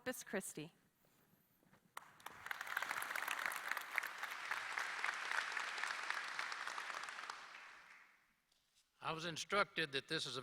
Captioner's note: applause